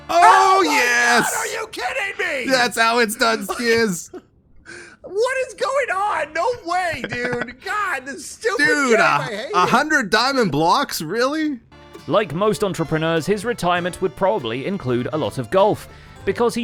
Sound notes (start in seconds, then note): 6.9 laughs